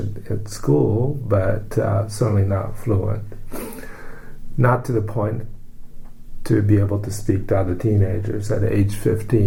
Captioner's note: sniffs